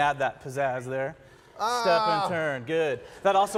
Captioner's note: screaming like a dork